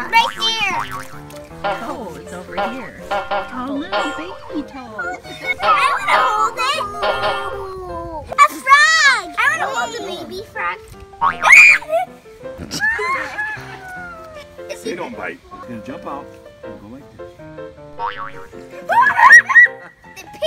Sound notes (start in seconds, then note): 12.8 screaming; 18.9 screaming